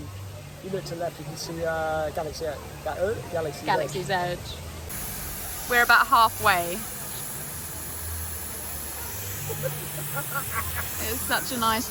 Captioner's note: laughter